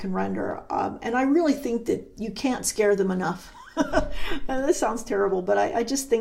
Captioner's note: chuckles